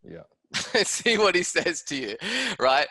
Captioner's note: laughing